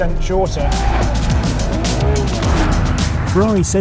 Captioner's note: car revs; upbeat music continues